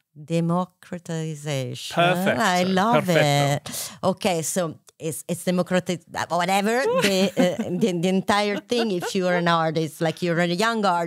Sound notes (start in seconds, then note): 6.8 laughs